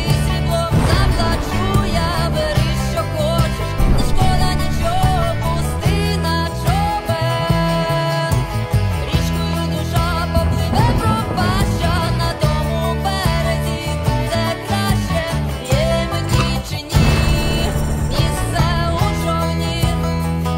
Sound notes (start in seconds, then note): 0.0 music and sounds of explosion; 15.3 mortar fire sound; 16.1 music and sound of explosion